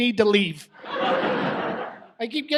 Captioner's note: audience laughs